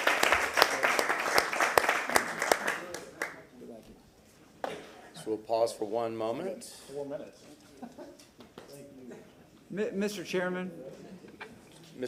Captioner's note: applause